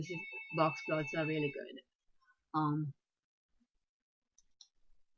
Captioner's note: phone ringing